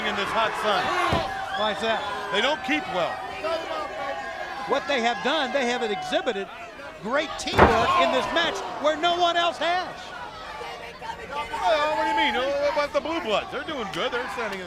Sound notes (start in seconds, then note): 11.1 crowd chatter